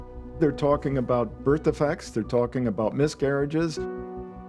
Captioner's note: none